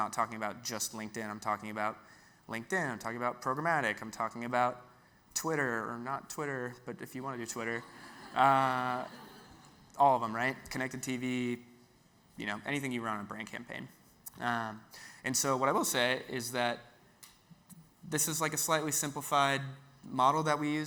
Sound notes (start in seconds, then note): 7.8 audience laughs